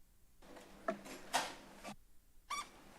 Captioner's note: door closes